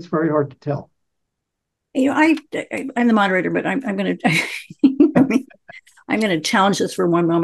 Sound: laughs

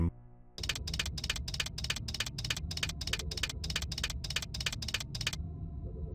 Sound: clicking

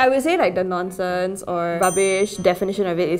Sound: bell dings

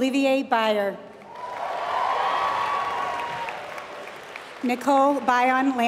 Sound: applause

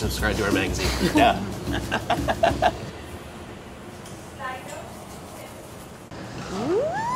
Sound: laughs

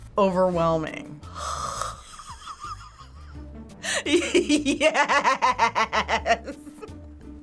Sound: chuckles

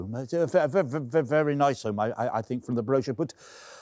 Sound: stammering

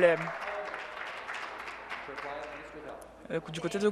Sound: crowd Noise

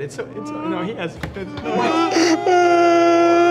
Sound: three men start crying like babies

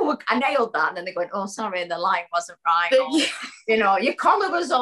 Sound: laughs

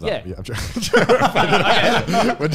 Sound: laughing

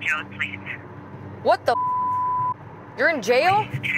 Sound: beep

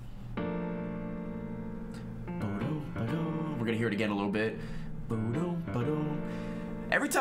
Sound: hums

